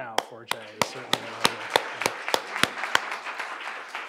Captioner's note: applause